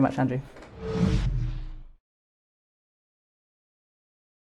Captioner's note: whooshing